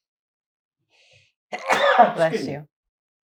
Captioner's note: sneezing